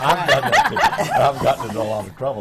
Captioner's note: laughter